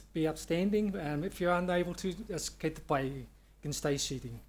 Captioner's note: speaks Maori